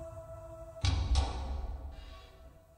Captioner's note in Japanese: 扉の開閉音：ガタン